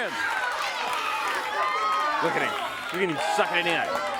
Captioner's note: crowd cheering